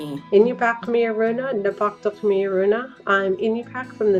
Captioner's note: speaking Inupiaq